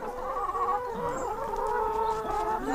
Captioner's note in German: Gackern